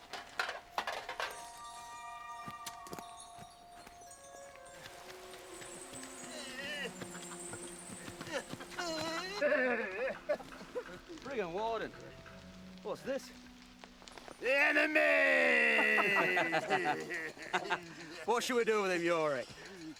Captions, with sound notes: (dramatic music) (man whines) (men laugh) - Bring him, warden. What's this? - The enemy! (men laugh) - What shall we do with him, Yorick?